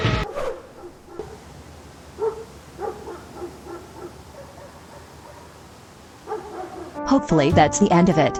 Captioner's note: dogs barking